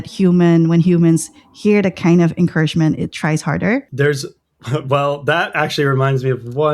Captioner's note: laughter